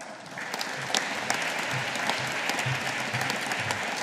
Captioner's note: audience applauding